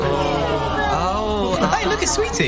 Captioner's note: Toți oftând și răcnind